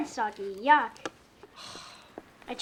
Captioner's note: sighs